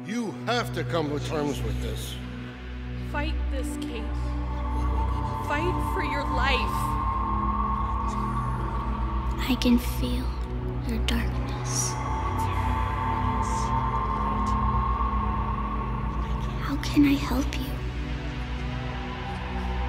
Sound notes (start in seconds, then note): 7.9 eerie music; 12.5 eerie music; 12.5 ghostly whispering